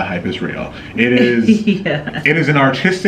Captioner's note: laughing